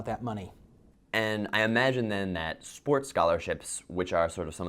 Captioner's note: voiceover